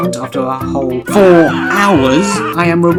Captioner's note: screaming in the pain of having spent this long on a challenge